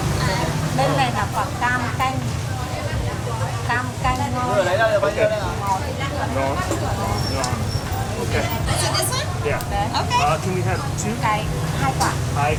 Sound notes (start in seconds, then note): 2.5 speaking Vietnamese